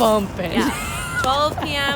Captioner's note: laughing